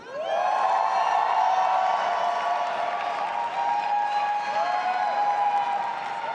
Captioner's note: audience applauding and cheering